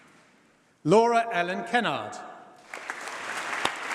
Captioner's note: applause